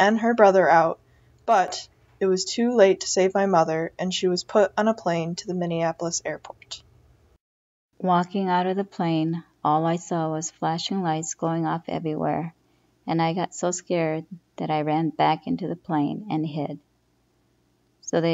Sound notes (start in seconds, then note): 6.7 voice recording